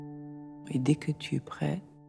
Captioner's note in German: Gespräch im Film